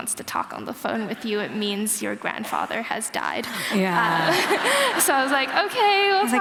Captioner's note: laughter